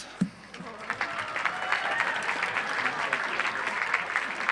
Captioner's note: audience applauds